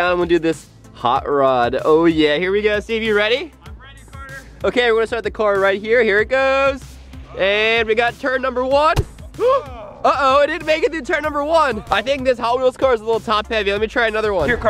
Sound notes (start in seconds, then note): 8.9 car hitting grass